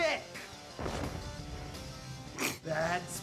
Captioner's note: fire rumbles